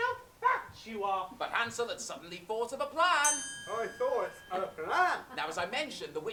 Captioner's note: ping